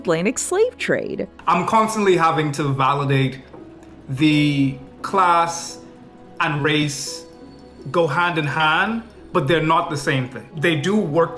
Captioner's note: foreign